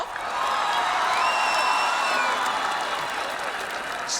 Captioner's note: crowd applauds